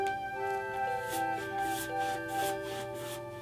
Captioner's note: loud brushing